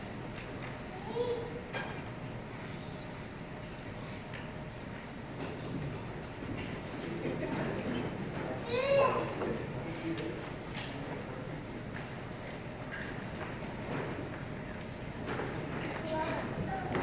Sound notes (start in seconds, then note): none